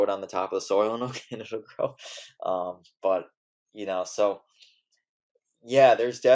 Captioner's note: laughs